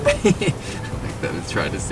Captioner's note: laughter